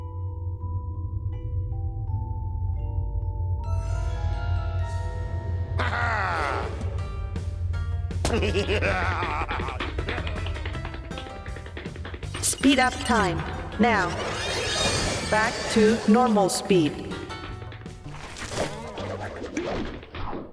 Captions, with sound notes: (intriguing music) HA-HA! (giggles) (robot voice) SPEED UP TIME. NOW. BACK TO NORMAL SPEED.